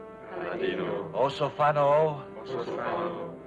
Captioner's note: speaking foreign language; all speaking foreign language; speaking foreign language; all speaking foreign language